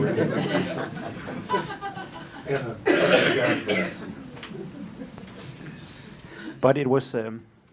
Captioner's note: laughter